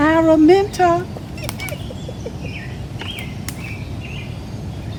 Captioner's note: giggling